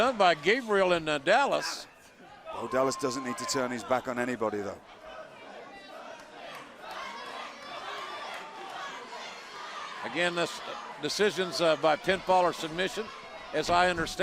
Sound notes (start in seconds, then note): 6.2 crowd cheering